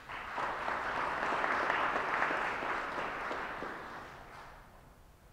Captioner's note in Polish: oklaski